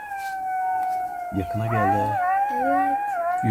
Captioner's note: jackals howling